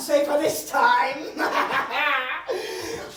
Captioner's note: evil laugh